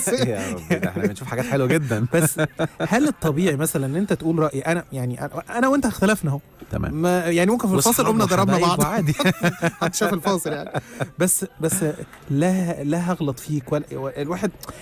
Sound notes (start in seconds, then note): 8.7 laughers